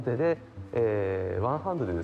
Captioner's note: foreign language